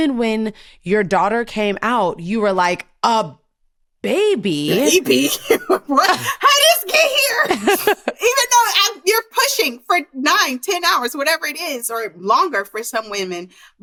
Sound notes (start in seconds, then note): 7.6 laughter